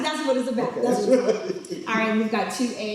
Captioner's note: laughs